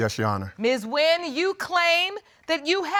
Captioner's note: none